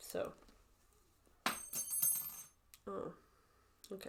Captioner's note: needle clanging on floor